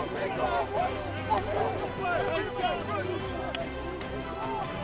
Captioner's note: team cheering